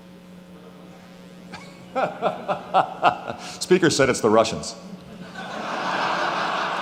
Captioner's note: laughing; laughing